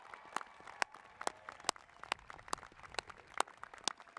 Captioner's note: cheers and applause